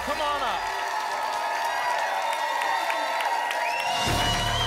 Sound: applause and cheering

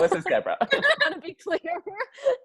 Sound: laughing

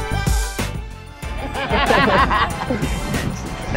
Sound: laughter

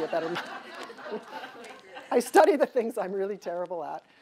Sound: audience laughs

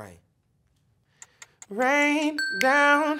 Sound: timer ticking

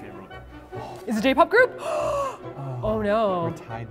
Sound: gasp

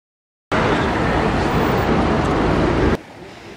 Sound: cars and horns; water trickling

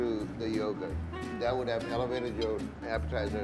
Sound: sharpening knives

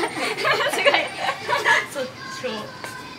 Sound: laughs

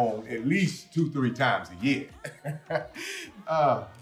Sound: chuckling

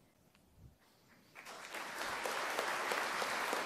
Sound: applause

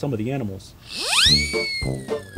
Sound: slide whistle

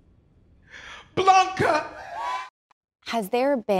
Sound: crowd cheers

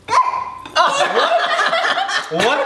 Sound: laughter

